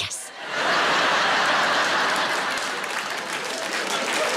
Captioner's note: audience laughs